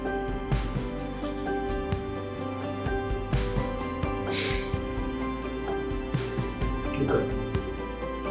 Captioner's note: Soupirant profondément; sighs a deep breath